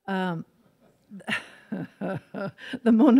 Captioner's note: laughs